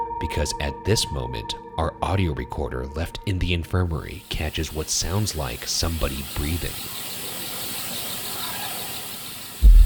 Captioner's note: none